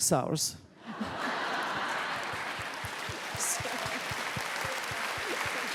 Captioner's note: crowd laughing and clapping